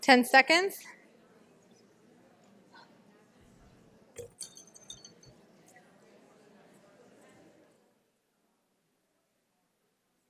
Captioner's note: background Discussion